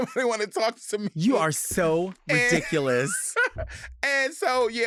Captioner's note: laughing